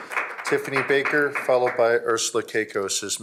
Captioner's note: applause